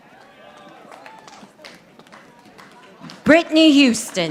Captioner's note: audience applauding